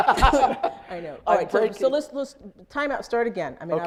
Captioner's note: laughs